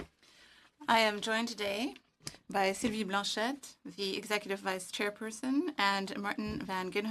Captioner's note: speaking French